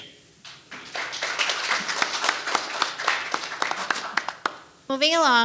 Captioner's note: audience applauding